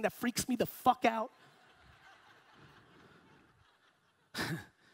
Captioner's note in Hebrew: הקהל צוחק